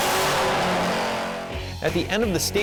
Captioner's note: engine noise